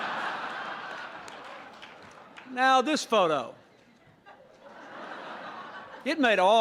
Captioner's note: laughter